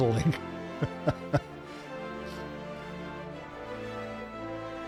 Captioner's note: laughs